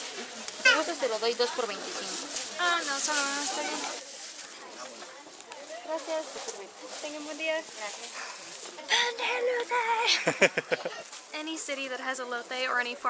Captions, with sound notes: If you want, I can give you 2 for 25. No, just one is fine. Thank you. Have a nice day. Cornbread! [Laughter] Any city that has elote or any form of it